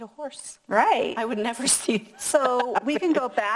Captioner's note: laughs